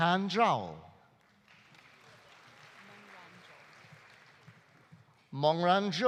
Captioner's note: audience applauding